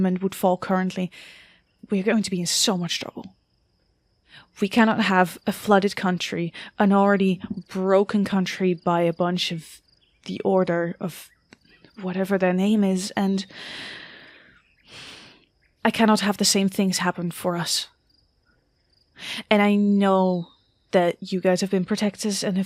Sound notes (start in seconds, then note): 13.5 sighs